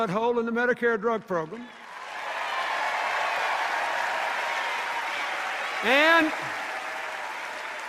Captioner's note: cheers and applause